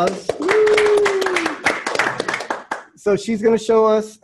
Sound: applause

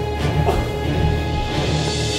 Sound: gasps; intense music

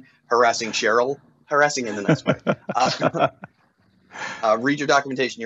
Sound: laughs

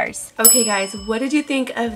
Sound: bell chime

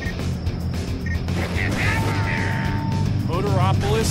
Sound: revving aggresively

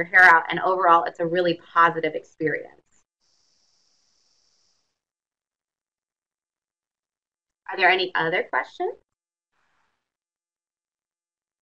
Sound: silence

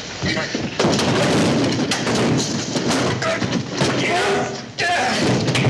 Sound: loud thuds; loud grunts

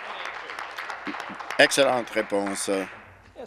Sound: applause

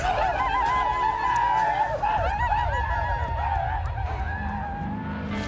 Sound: crow rejoicing

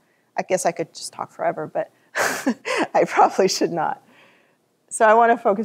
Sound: laughs

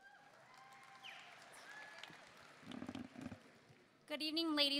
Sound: audience applauding

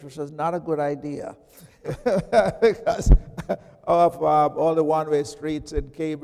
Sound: chuckles

